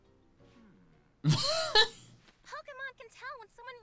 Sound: laughing

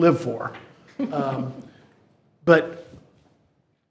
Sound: attendees chuckling

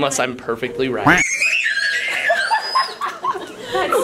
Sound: screaming

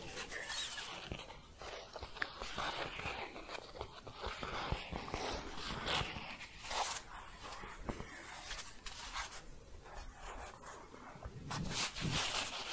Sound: gentle scratching and shuffling

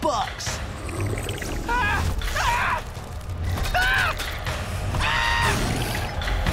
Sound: screaming

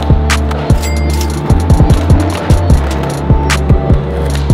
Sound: cha-ching

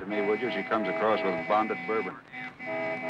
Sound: honking

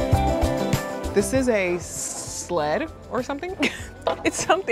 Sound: laughing

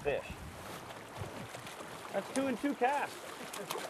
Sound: fish splashing

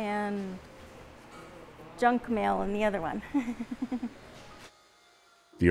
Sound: laughs

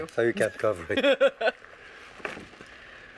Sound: laughs

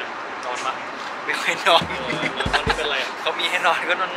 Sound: laugh

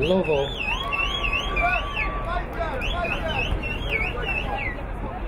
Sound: crowd cheering

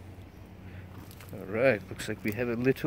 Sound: sticks cracking

